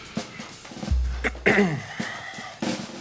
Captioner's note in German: Vorsichtiges Räuspern